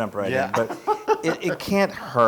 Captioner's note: laugh